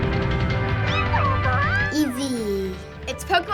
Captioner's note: Eevee babbling